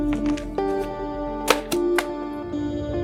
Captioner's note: newspaper lands